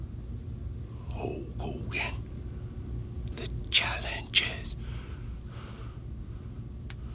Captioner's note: breathes heavily